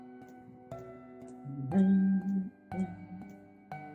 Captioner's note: humming along